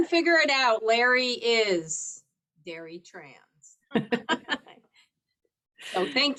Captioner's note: laughs